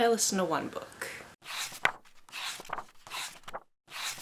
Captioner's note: pages turning